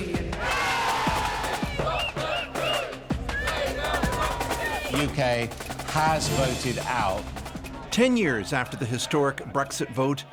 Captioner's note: applause